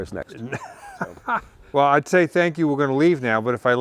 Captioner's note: laughs